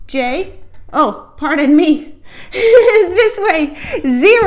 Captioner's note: chuckle